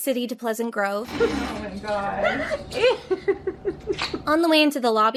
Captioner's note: laughing